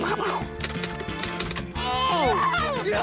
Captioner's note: imitates gunfire; keys clack; shouts